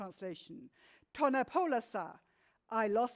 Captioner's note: speaks in foreign language